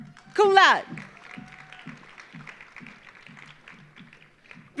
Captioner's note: audience applauding